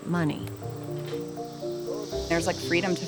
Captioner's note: loud insects buzzing